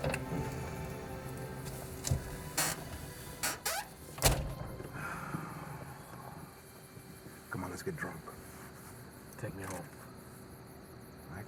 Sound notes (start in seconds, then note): 0.0 somber dramatic music; 0.0 car door clatters open; 4.0 car door slams shut